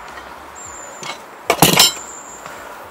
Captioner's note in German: Scheppern